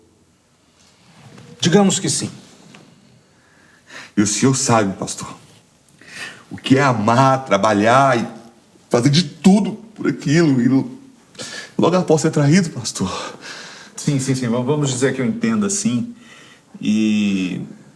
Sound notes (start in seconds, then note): 11.3 inhales